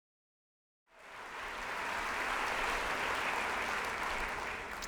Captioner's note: applause